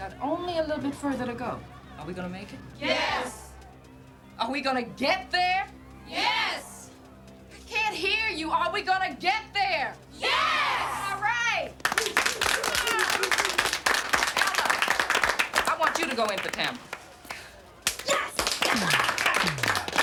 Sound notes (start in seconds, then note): 11.8 applause